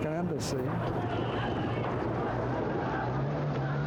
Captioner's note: murmuring